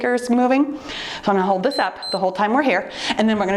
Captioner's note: timer beeps